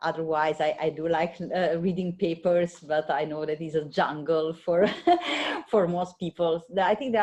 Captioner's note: laughter